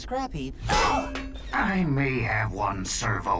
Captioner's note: exclaims